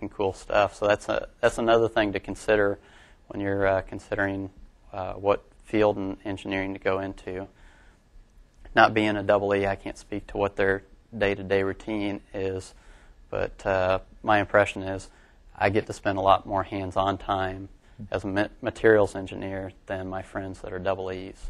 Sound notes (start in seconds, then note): none